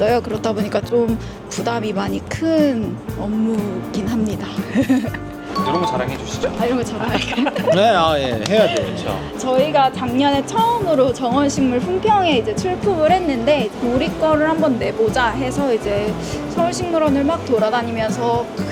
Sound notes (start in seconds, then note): 4.6 laughter; 5.5 ding sound effect; 7.0 laughter